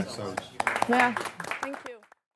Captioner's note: clapping